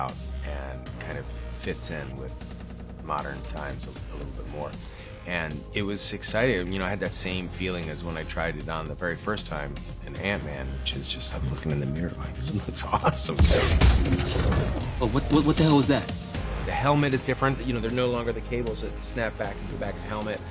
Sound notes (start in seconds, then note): 15.1 stammers